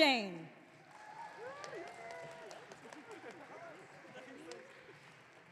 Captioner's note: audience cheering